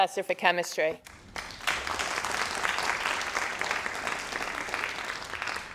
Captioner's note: crowd applauding